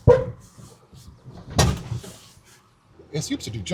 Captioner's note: truck thuds